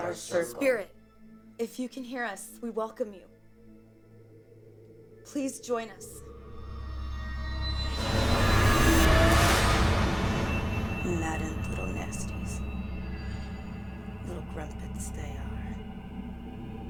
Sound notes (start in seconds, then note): 7.0 dramatic music; 11.0 speaking in foreign language